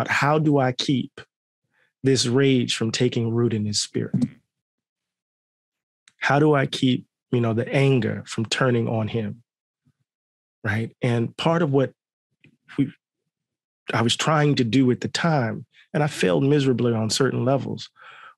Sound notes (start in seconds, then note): none